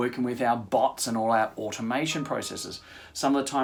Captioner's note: chime